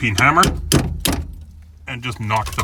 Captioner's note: banging